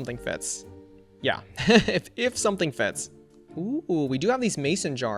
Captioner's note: laughs